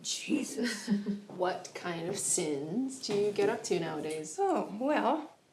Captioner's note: chuckles